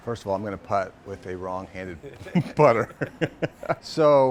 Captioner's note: laughs